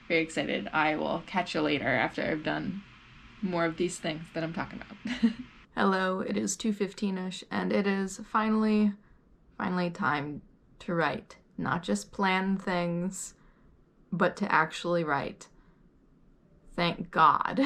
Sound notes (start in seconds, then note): 5.0 chuckles